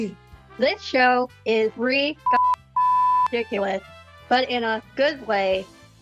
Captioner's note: beep